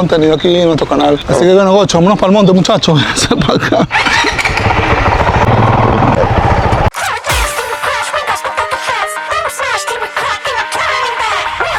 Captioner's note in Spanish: risas